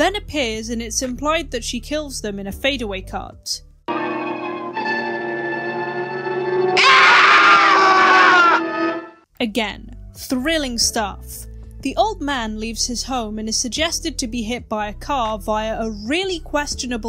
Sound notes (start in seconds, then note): 6.7 screams